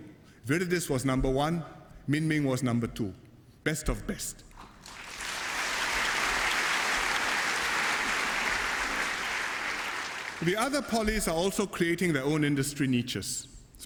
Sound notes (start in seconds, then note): 4.6 applause